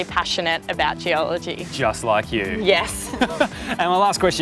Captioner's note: laugh